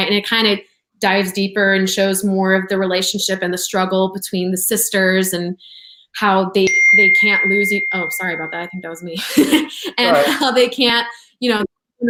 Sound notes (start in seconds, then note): 7.0 buzzer dings; 9.2 laughs